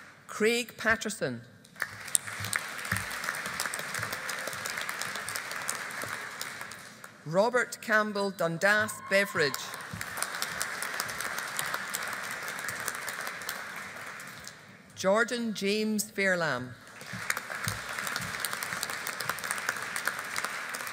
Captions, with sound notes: Craig Paterson. (AUDIENCE APPLAUDING) Robert Campbell Dundas Beveridge. (AUDIENCE APPLAUDING) Jordan James Fairlamb. (AUDIENCE APPLAUDING)